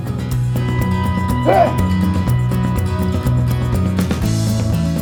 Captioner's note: cry of victory